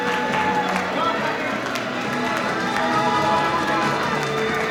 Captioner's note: crowd cheering; audience cheering